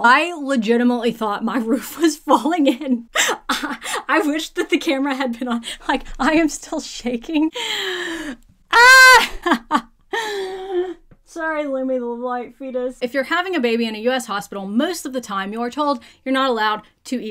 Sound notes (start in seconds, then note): 3.1 laughing; 8.9 laughing